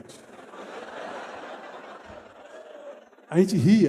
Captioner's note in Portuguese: risos